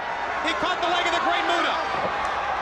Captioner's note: crowd cheering